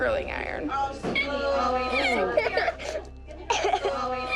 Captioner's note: crying